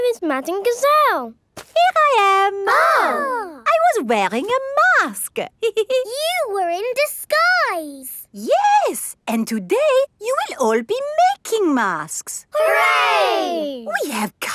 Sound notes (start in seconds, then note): 2.6 exclaiming; 5.6 giggles